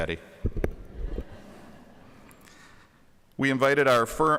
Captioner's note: audience laughing